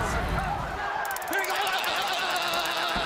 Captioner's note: crowd chatter